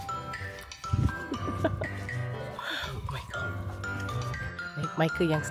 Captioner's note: laugh